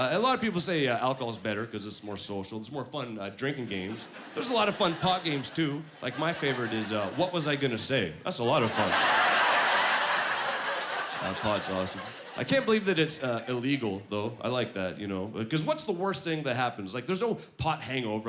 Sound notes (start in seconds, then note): 8.5 laughing